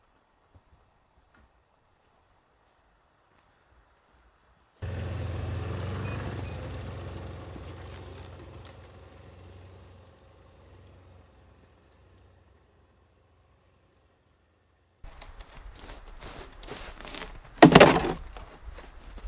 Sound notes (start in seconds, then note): 4.8 snowmobile engine revving